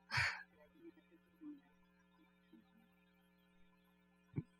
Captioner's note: speaking french